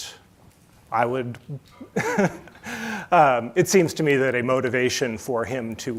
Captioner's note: chuckles